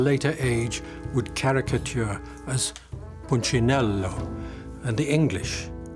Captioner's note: speaks in Italian